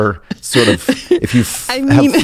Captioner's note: laughs